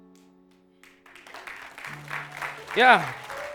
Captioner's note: audience applauding